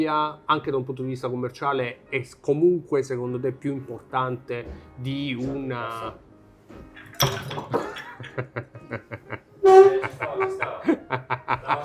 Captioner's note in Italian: risate